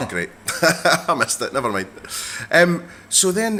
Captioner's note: laughs